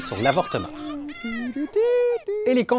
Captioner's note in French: pleurs et chantonnement